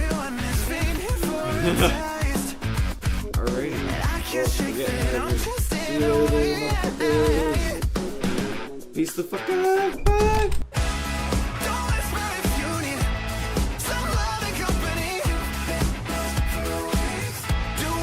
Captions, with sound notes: (laughing) All right, I can't shake it. I'm just sayin' oh yeah, yeah, yeah, yeah, yeah, yeah. Peace to the f*** out, bye. (upbeat music)